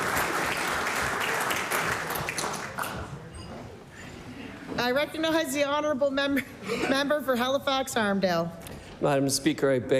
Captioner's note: applause